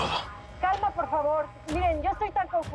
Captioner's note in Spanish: La alarma sigue sonando